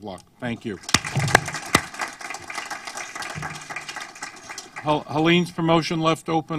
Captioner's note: applause